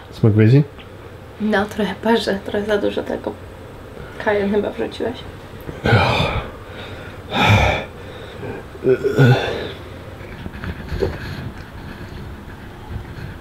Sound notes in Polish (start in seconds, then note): 5.7 sapie